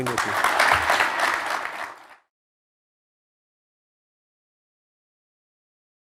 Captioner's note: applause